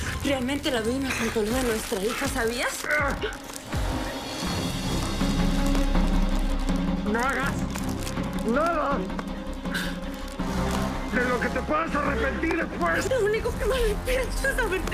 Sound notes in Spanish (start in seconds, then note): 4.1 Quejidos